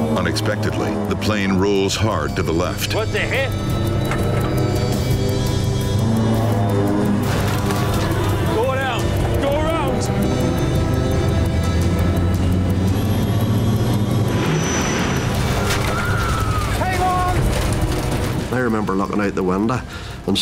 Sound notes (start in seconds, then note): 15.6 people shouting